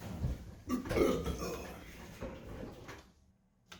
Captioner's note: beltch